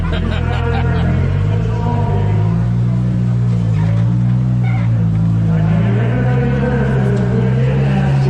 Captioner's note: laughing; crowd chattering